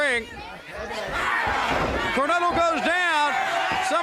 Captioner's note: crowd chatter